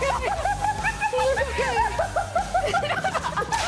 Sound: hysterical laughter

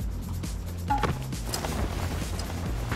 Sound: bump

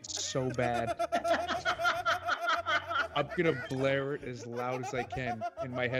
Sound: laugh

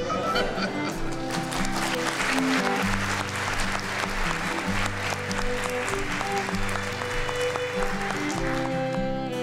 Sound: applause

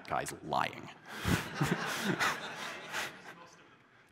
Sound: laughter

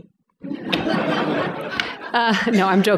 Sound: laughter

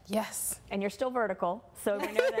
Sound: laughing

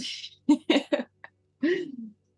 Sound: laughing

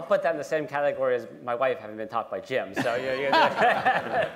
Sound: laughter

